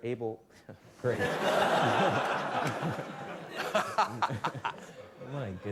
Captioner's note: laughter